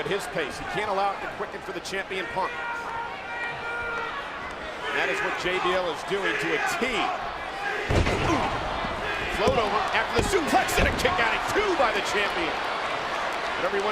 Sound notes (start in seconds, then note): 3.2 crowd shouts; 8.0 crowd chants "CM Punk